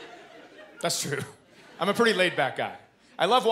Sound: chuckles

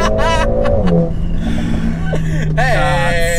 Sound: laughters

